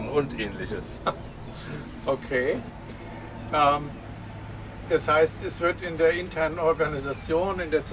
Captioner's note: laughter